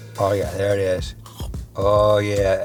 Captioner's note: makes a chomping sound